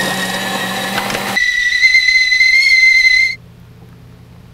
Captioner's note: sound of tea kettle; sound of grinding coffee beans